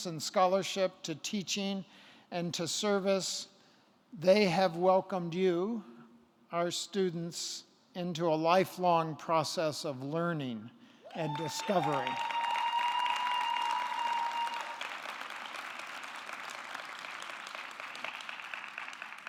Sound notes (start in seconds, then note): 11.1 audience cheering; 11.2 audience clapping